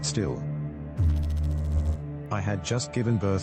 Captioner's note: electrical noise